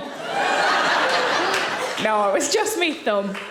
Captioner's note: audience laughing